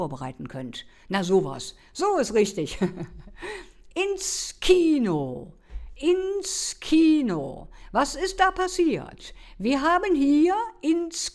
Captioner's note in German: gelächter